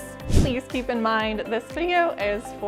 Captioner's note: air whooshing